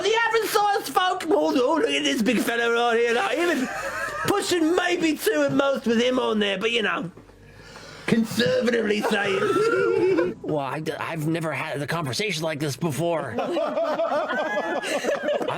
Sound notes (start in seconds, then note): 8.9 giggles; 13.3 laughter